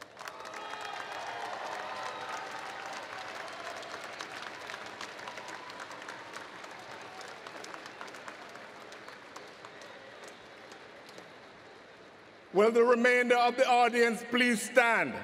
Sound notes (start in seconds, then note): 0.0 applause